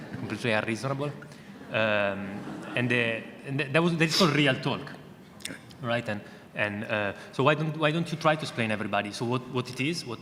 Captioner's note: audience laughter